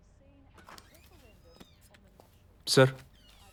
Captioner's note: door squeaks open